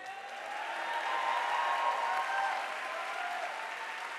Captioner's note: audience applauding